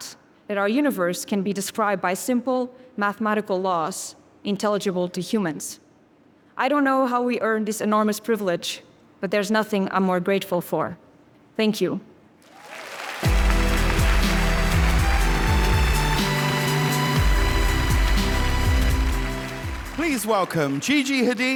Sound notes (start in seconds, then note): 12.5 audience cheering and applauding; 13.2 upbeat music